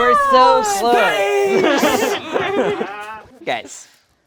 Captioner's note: group laughs